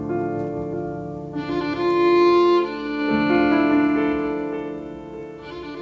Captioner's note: none